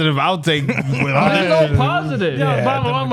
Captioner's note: laughing